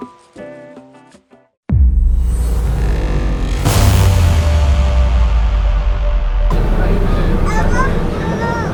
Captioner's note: children talking; upbeat music